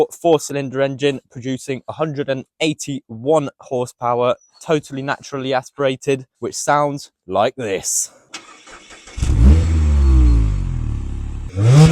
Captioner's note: exhaust sounds